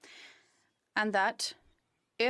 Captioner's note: speaking French